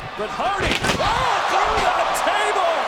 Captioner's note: body thuds; table thuds